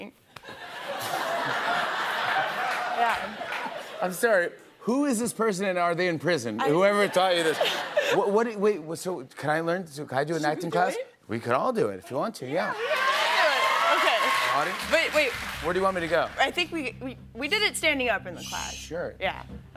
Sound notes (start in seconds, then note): 0.4 laughter; 6.7 laughter; 12.7 audience cheers